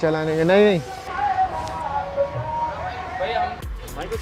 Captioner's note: Rickshaw with weird music passes